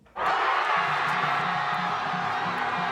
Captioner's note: cheering